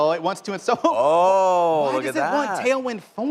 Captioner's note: laughter